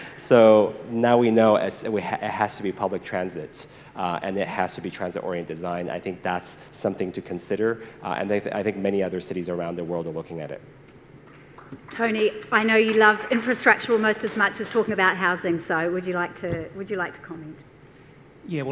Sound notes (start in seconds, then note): 11.4 applause